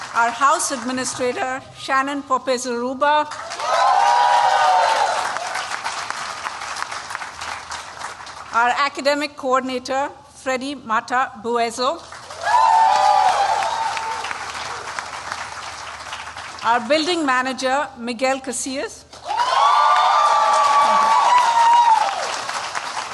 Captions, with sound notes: Our house administrator, Shannon Poppe Zaruba. [CHEERING] Our academic coordinator, Freddy Mata-Bueso. [CHEERING] Our building manager, Miguel Casillas. [CHEERING]